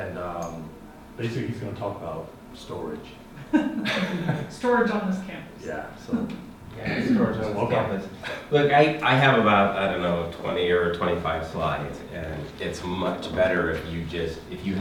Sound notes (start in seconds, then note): 3.4 students laughing